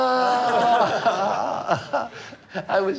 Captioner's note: laughing